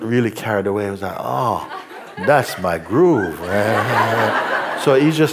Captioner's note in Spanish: risas